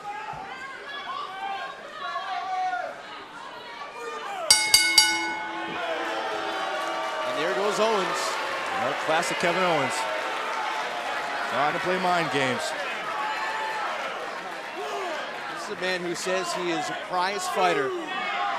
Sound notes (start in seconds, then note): 4.5 bell rings; 6.6 cheers & boos